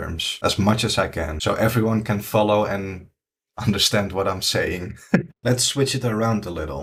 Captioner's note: laughs